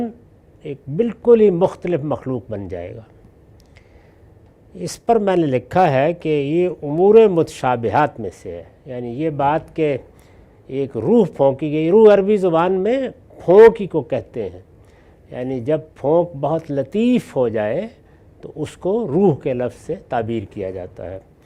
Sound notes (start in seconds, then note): 14.8 breath